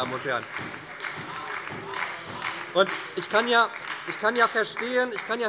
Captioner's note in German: Beifall bei der SPD - Zurufe von der CDU